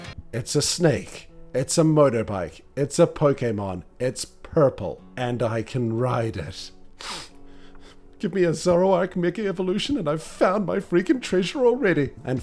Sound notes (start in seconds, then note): 6.9 sniff